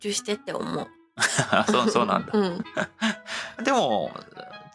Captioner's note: laughs